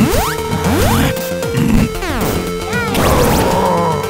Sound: men snarling; wrestling sounds; loss of life-points tone

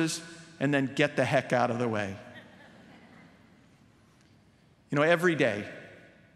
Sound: background laughter

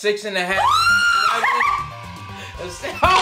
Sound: screaming

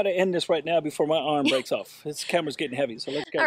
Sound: chuckles

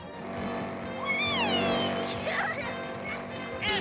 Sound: laughing

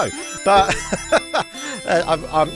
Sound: laughs

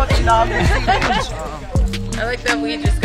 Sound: laughing

